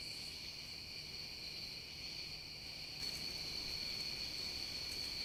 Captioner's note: nighttime soundscape